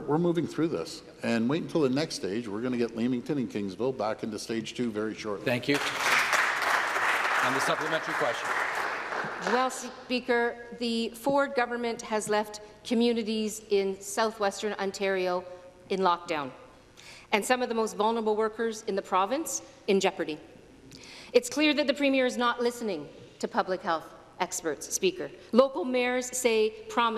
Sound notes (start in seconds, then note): 10.2 applause